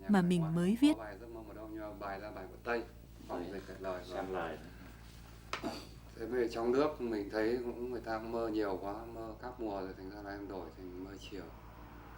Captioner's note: speaking VIetnamese